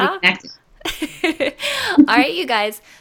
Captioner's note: laughing